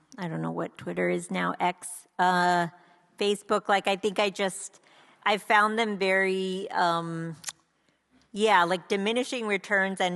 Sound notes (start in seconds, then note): none